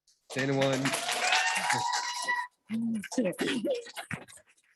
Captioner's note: audience applauding